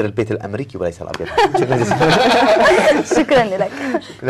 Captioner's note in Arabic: ضحك